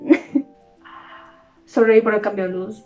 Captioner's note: gasps in spanish